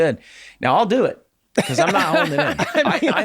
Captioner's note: laughing